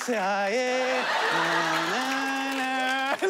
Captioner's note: hums